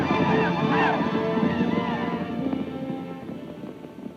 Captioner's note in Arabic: صراخ الأباتشي